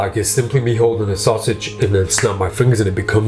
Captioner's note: snaps